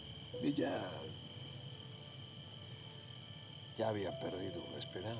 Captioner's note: speaking spanish